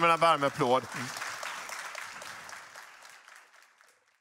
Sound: applause

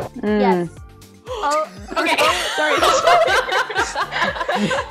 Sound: all laughing

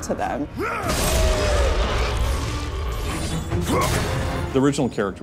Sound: grunting

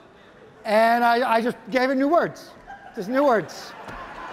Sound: audience laughing

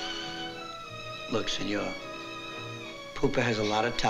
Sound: italian

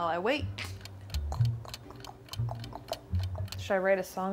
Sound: clock ticking

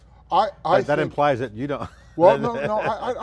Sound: laughs

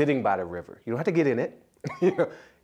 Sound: laughter

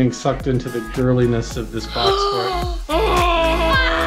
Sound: gasps; upbeat music; screaming

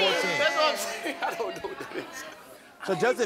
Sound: laughs

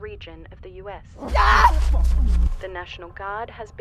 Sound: woman screaming

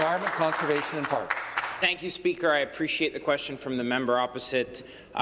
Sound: some Applause

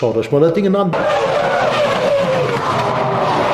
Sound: engine sound

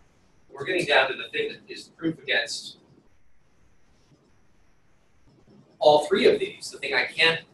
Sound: pause

